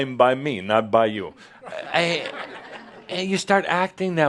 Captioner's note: more chuckles